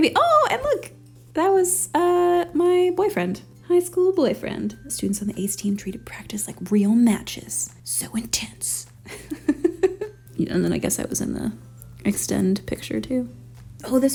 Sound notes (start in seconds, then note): 9.0 laughs